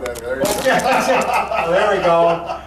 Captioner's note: laughing